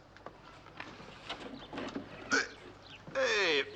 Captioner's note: grunting